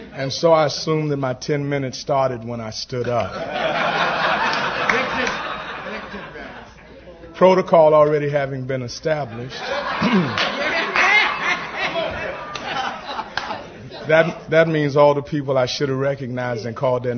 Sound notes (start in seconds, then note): 3.2 laughter; 9.4 laughter